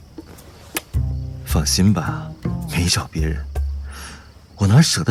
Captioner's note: smooches